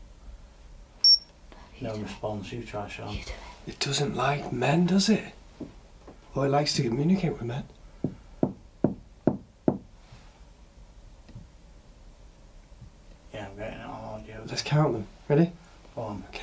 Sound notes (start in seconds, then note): 8.8 knocks on ceiling